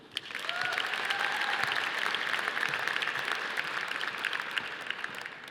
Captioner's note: audience applauding